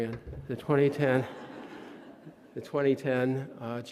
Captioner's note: audience laughing